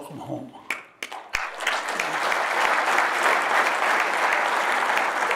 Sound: audience applauding

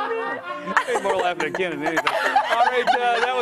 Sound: laughter

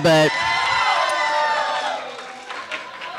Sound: audience cheering

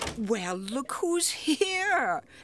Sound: knocking

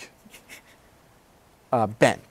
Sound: laughs

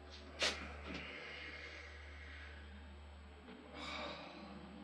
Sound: sighs

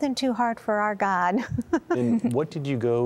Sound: giggling

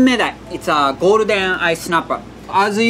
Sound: text chiming

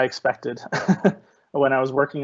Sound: chuckling

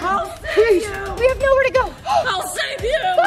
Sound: gasps

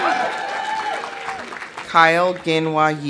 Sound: audience cheering; audience applauding

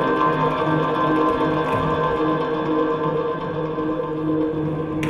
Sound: dancer thudding

